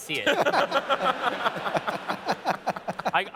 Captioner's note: laughter